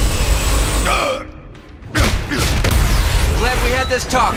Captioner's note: grunts